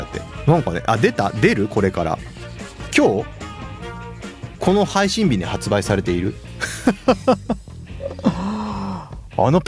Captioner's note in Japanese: 笑い